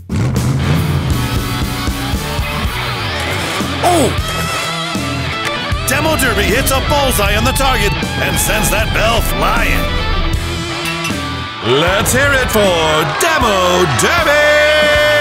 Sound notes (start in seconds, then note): 0.2 intense music plays; 0.6 engine revs; 10.8 bell rings